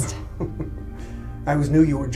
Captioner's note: Kenneth chuckles